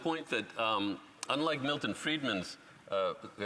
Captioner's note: speaking French